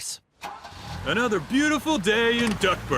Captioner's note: car starting